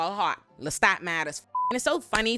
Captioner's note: beep